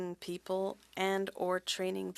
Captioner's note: speaking French